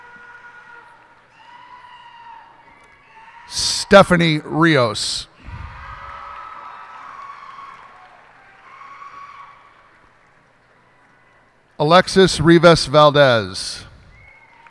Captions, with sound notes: Stefany Rios. [cheers and applause] Alexis Rivas Valdez.